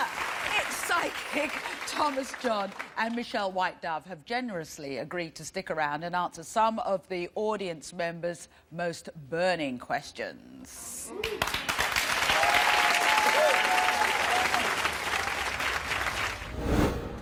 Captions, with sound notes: Yeah, it's psychic Thomas John and Michelle Whitedove has generously agreed to stick around and answer some of the audience members most burning questions. (audience cheering)